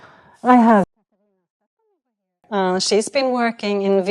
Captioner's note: muted